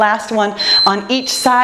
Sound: timer beeps

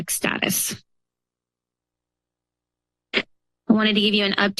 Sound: pause

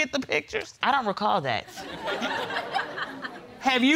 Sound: audience laughs

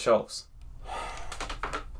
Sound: sighs in frustration

